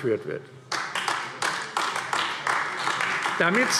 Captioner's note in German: Beifall AfD